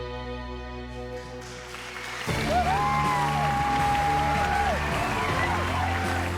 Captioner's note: cheering and applause